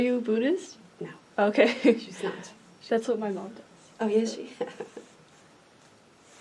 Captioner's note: laughs